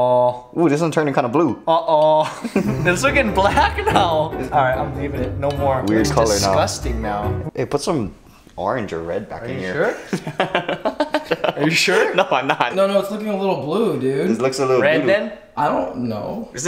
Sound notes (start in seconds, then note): 2.2 laughing; 9.9 laughing